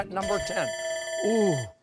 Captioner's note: bell dings